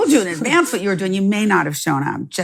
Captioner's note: laughs